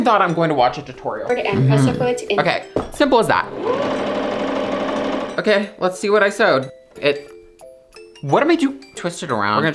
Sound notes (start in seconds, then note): 1.4 tutorial playing; 3.4 machine whirring